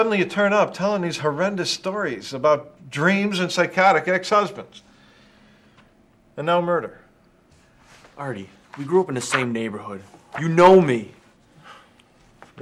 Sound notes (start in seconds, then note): none